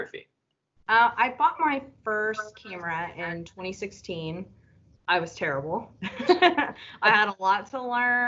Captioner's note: laughter